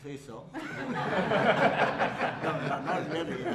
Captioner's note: laughter; laughs